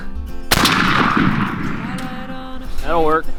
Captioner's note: gun firing